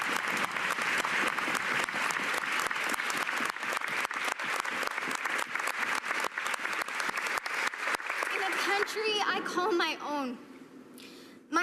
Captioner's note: cheers and applause